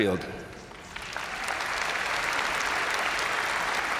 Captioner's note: crowd applauding